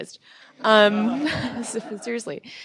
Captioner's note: laughter